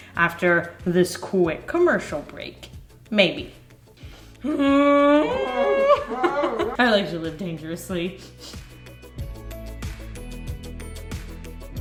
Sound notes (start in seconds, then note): 4.5 laughing; 9.0 upbeat music